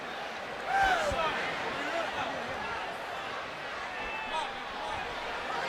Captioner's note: people chattering